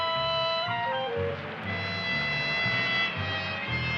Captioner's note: traffic droning